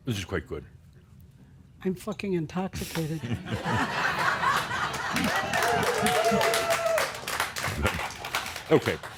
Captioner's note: laughter and some cheers and applause